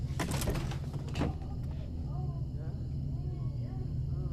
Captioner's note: actors moaning